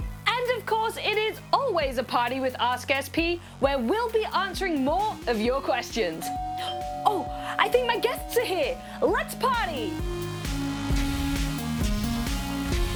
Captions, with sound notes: And of course, it is always a party with Ask SP. where we'll be answering more of your questions. (DOORBELL RINGS) Oh, I think my guests are here. Let's party!